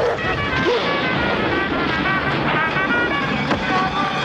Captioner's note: muffled screams